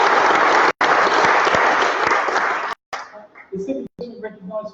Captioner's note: applause